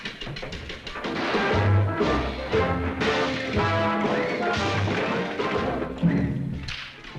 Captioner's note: gunshots afar